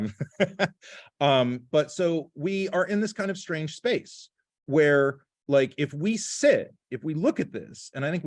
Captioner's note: laughter